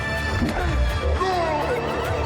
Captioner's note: Christian grunts